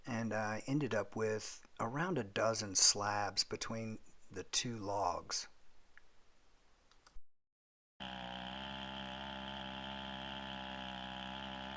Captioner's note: chainsaw buzzing